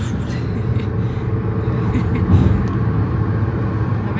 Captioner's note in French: rire nerveux